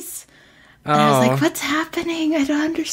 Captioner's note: laughs